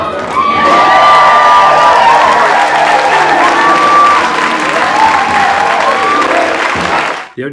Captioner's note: cheering and applause